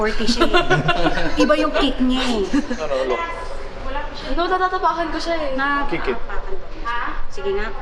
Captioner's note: laughs